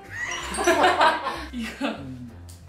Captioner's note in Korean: 웃음